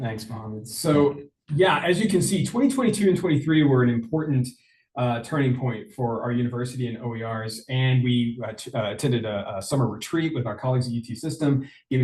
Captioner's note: foreign language